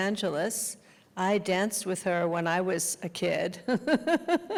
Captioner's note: laughing